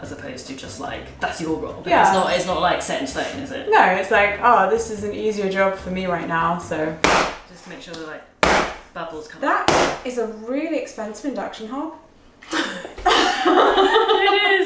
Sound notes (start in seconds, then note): 6.9 pan slams; 12.5 both laughing